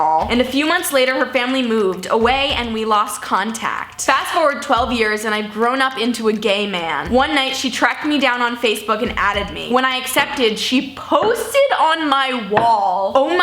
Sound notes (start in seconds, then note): none